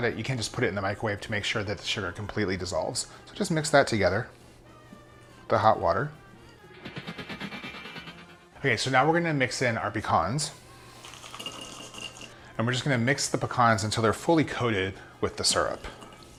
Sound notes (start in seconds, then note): 6.7 rapid vibrating